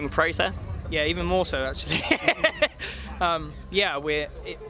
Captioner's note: laughs